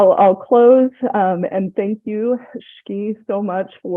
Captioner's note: non-english